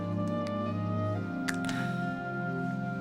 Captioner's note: sighs